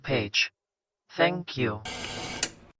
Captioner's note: static, then a click